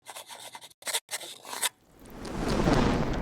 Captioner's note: pen scratching; crackling